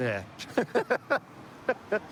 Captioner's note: laughter